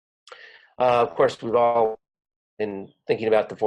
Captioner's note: audio warps